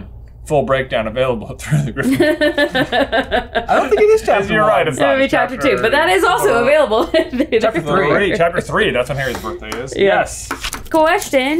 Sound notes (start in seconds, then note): 2.0 laughing